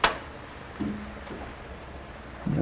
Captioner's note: sizzling